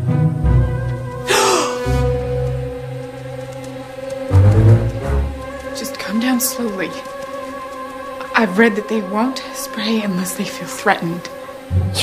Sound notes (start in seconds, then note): 1.2 gasps